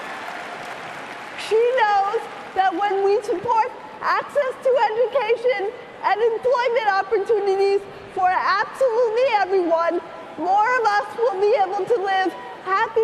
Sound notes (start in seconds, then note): 3.2 cheering and applause